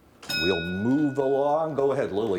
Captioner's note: bell dinging